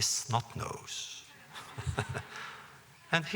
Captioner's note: laughter